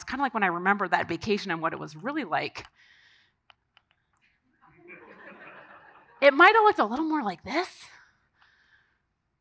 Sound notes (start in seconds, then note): 4.7 audience laughing